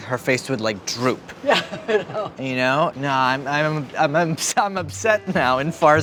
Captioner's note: chuckles